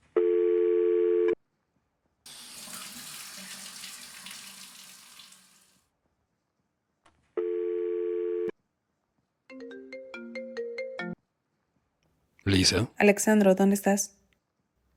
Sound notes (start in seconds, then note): 0.2 phone beeps; 2.2 shower; 7.4 phone beeps; 9.9 phone rings